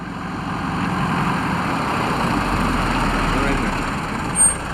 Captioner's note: engine rumbling